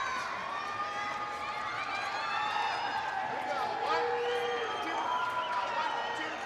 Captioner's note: attendees cheering; attendees applaud